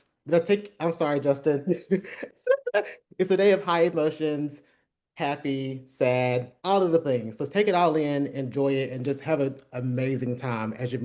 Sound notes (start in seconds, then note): 1.8 laughter